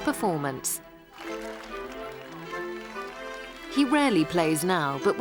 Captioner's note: audience applauding